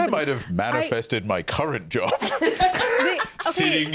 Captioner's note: laughs